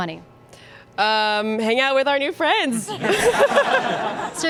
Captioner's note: laughs